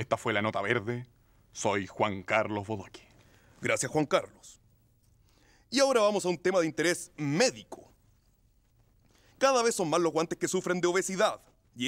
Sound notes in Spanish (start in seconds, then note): none